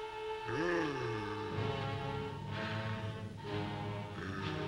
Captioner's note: Popoca groaning